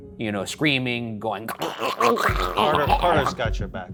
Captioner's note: choking